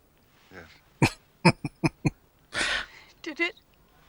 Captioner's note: chuckling